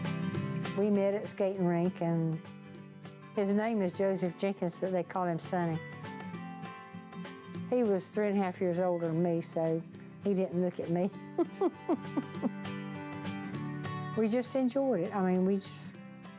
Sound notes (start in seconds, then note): 11.3 chuckling